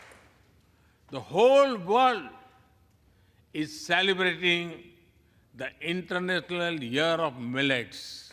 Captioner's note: applause